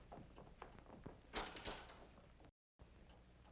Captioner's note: footsteps shuffling out; doors close